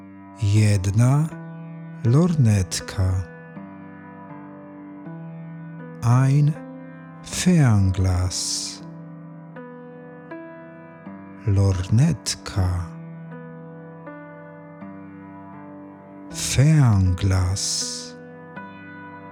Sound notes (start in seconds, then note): 7.9 german; 17.9 german